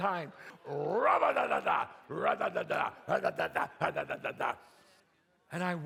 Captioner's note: imitates chattering